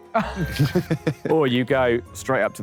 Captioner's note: Sidemen laugh